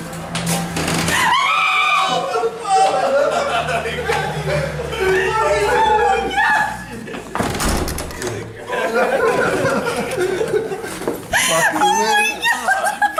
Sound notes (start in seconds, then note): 1.2 girl screaming; 4.4 friends screaming and laughing